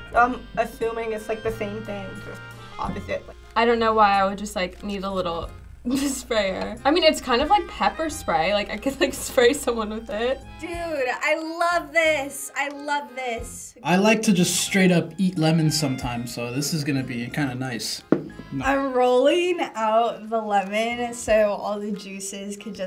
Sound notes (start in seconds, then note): none